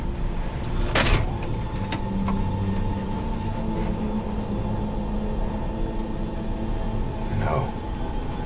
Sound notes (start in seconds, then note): 0.0 mechanism whirring; 1.0 lever clanking